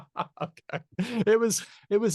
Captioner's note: laughter